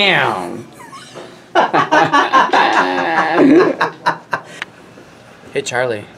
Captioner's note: laughs